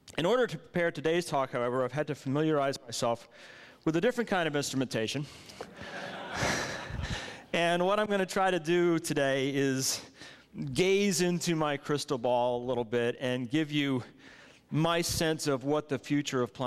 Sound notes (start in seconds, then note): 5.6 laughs